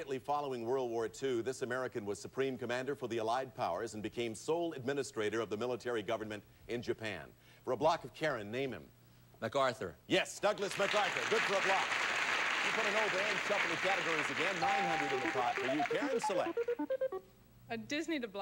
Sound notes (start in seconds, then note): 10.6 audience applauding